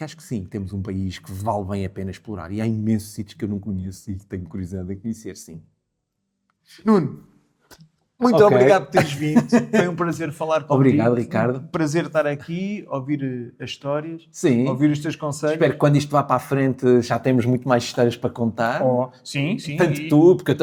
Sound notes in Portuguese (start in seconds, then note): 8.4 risadas